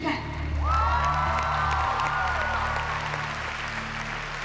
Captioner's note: cheers and applause